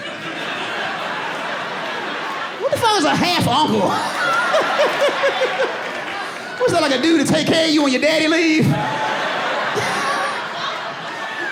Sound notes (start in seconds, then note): 0.0 laughs; 5.8 audience laughing; 8.6 audience laughing